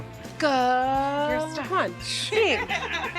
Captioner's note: laughter